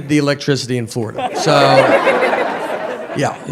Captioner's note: audience laughs